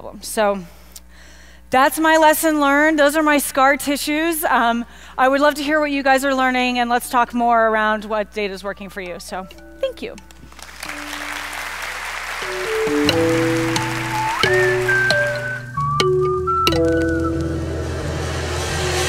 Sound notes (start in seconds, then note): 10.3 applause; 12.6 laid back music